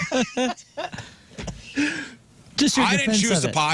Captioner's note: laughing